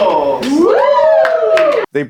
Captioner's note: crowd cheers